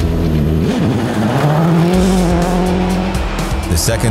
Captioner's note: car engine revving